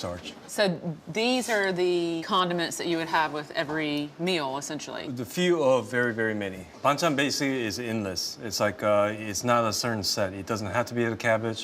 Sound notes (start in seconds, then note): none